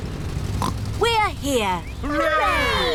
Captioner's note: oinks